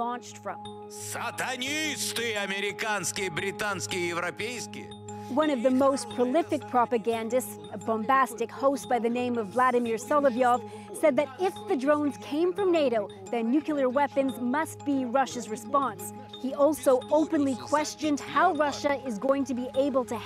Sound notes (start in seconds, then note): 2.8 speaking alternate language